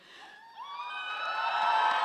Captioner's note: cheers